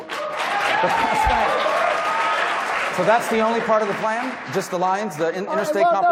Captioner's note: applause